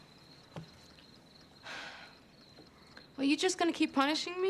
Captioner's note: sighs